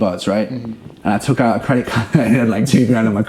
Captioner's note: chuckles